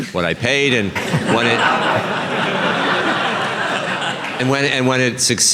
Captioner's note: laughter